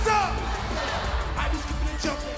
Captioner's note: crowd cheering